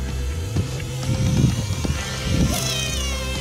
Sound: motor sound

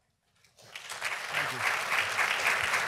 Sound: audience clapping

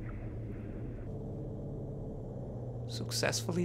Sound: plane engine roaring

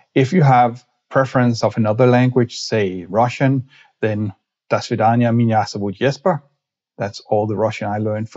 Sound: speaks in Russian

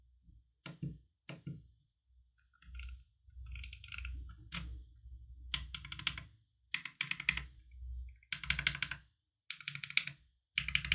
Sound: keyboard typing sounds

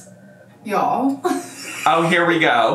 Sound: laughs

